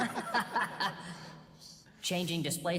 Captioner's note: laughing